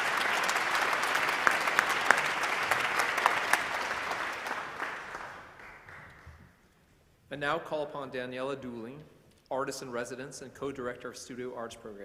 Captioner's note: applause